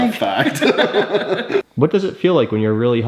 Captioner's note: both laugh